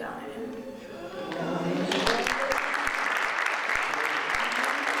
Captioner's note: audience applauds